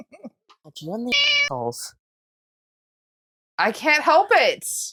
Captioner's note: meow